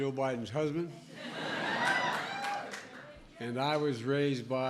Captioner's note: laughter